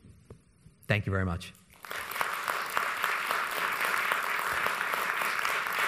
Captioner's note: audience applauds